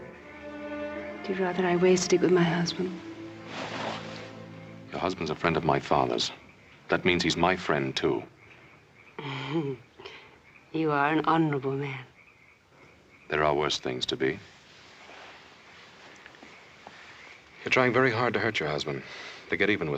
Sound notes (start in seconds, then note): 8.6 sultry laugh